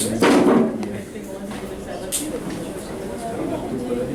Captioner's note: class mumbles